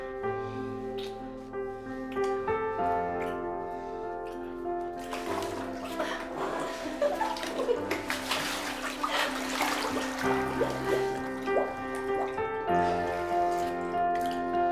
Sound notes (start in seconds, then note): 6.8 laughter